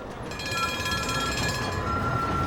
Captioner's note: train bell clanging